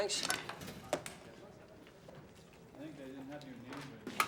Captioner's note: people chatter indistinctly